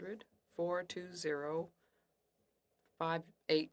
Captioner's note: speaking French